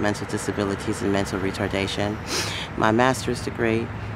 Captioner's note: sniffs